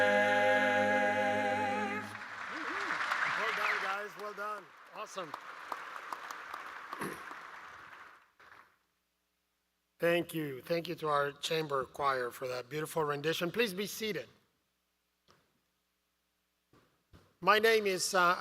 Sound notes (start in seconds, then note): 6.4 applause